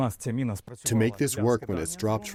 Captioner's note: through translator